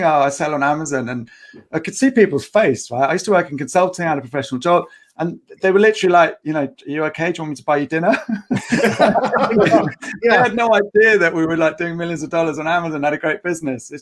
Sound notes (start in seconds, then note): 8.1 all laughing